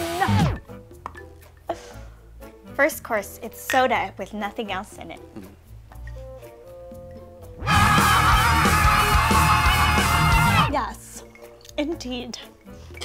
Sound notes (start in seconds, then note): 7.6 yell